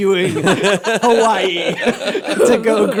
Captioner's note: laughter